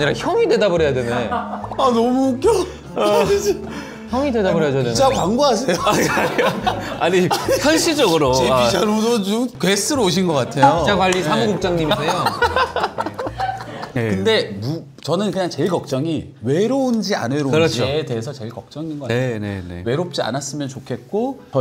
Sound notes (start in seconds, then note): 1.1 Laughing out loud